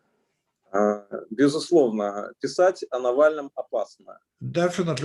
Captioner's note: speaking Russian language